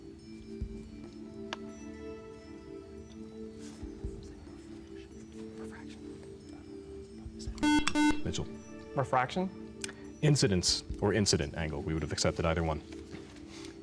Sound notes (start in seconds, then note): 4.2 whispering; 7.6 buzzer